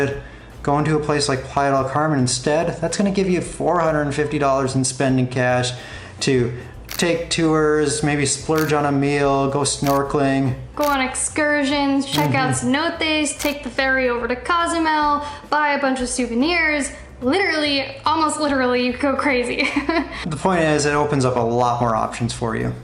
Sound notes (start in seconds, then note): 19.6 laughter